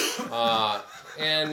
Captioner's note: attendee laughs